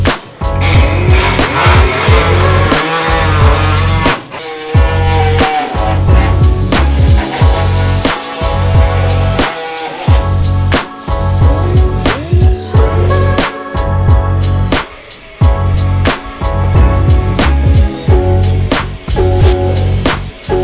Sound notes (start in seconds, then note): 0.5 upbeat music; 3.8 engine revving; 8.3 upbeat music